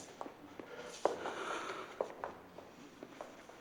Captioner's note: steve exhales